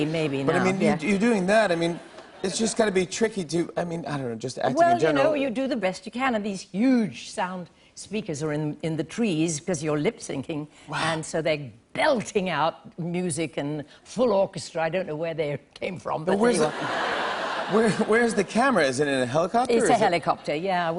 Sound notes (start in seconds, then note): 16.6 laughter